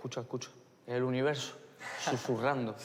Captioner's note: laughs; laughter